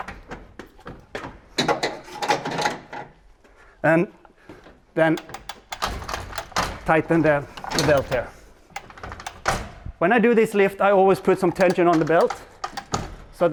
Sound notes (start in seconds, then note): 1.9 metal clanging